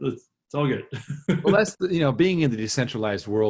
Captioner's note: laughs